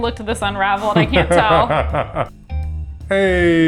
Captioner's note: laughs